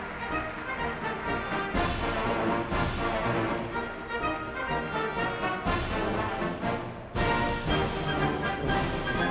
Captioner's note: applause